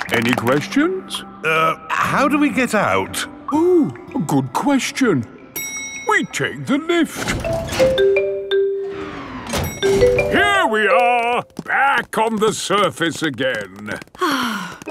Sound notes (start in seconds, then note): 0.0 all clapping; 7.4 elevator dings